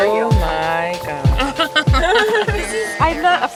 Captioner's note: laughs